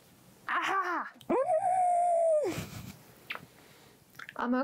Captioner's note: screams into fabric